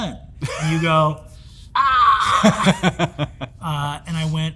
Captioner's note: Hank chuckles